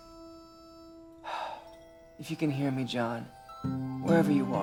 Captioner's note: exhales